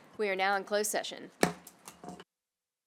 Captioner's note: gavel hitting dais; silence